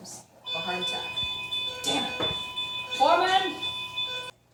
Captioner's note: heart monitor flatlining